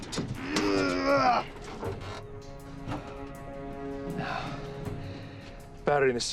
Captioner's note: moan